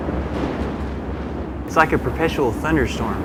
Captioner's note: thunder